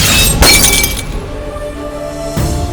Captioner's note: gunshot